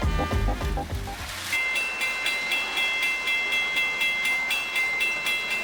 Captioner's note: crossing bell